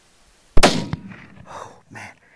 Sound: gun shot

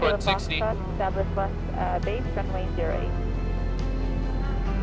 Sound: controller talking over radio

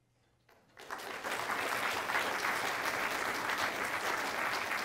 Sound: audience clapping

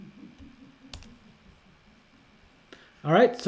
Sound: keyboard tapping

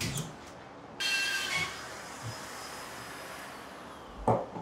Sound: saw buzzing

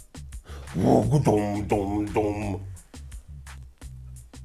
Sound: bass Sound effect

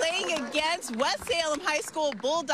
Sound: cheers and applause

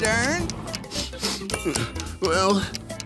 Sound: sniffling

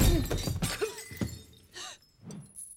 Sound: coughs

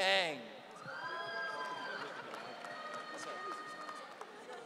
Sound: audience cheering

